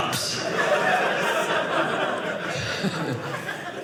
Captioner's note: audience laughing